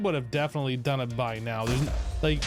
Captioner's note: explosions